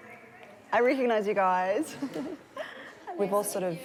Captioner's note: chuckles